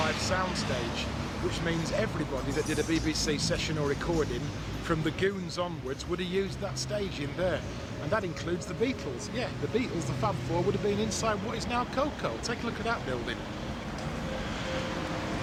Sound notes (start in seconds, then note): 5.1 traffic whirring; 6.3 pensive music